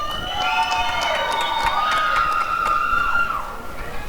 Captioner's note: applause and cheering